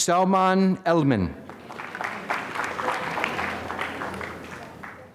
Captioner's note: applause